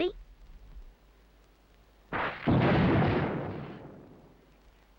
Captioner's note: thunder crashes